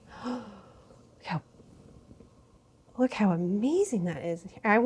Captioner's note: gasps